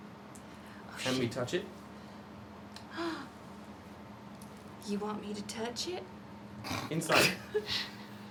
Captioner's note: gasps